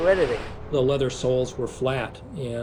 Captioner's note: waves crashing